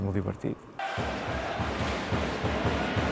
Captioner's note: fans cheering